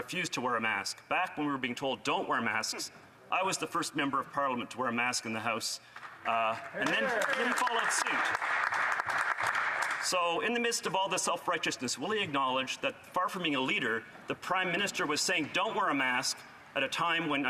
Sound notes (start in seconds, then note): 11.0 applause